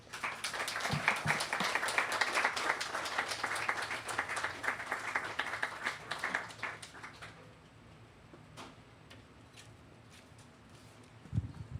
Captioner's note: applause